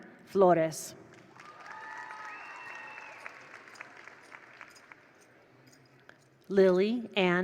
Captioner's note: attendees applaud; attendees cheer